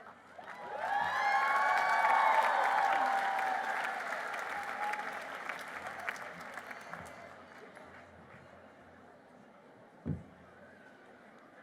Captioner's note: applause